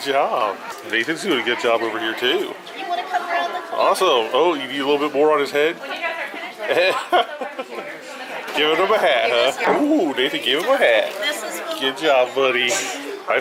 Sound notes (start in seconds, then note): 6.7 laughing